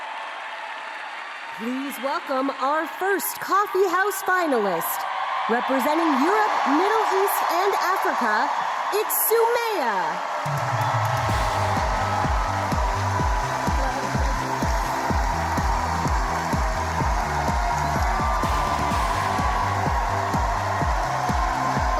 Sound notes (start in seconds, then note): 6.8 applause; 16.5 cheers and applause